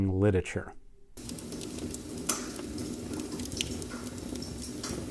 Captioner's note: fire crackling